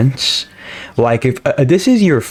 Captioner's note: inhales Oxygen